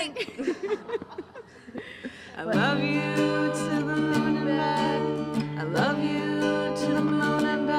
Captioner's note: laughter